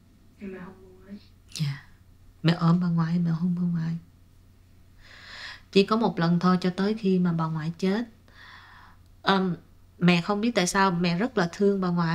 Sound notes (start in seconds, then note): 0.7 speaking foreign language